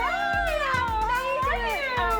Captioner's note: knocking on door